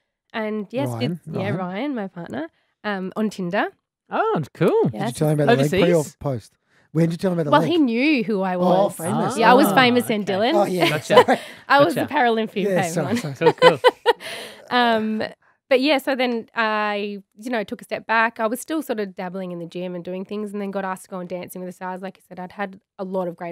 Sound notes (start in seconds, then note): 12.7 laughing